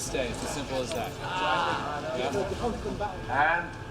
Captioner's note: indistinct chatter